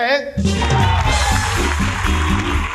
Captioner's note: applause